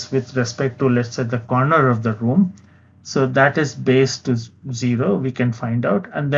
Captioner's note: vocalized- noise